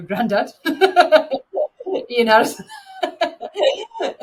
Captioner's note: laughing